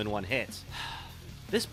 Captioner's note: sigh